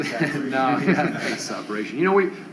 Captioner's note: laughter